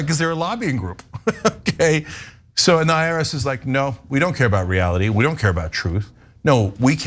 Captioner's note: laugh